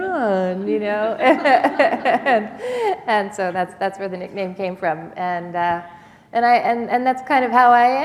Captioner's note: laughter